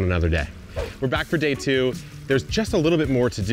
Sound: air whooshes

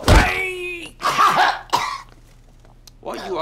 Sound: chokes

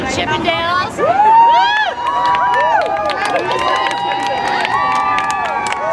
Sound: cheering and applause

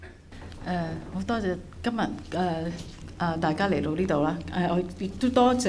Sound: Cantonese

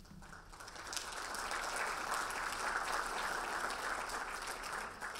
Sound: audience applauding

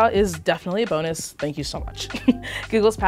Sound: giggling

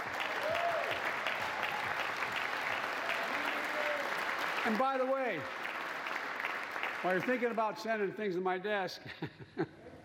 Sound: applause

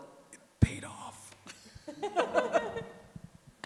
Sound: laughs

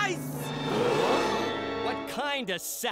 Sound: crowd gasping

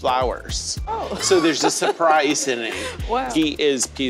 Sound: laughs

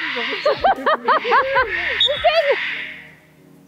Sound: chuckled

